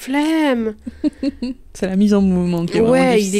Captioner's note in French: rire